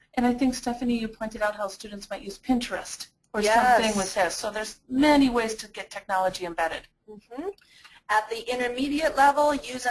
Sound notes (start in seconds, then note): 0.2 voiceover; 3.8 voiceover; 8.1 voiceover